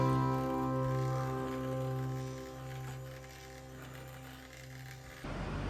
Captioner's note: sound of fan